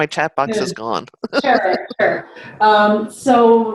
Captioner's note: chuckles